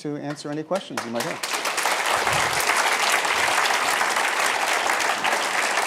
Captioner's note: applause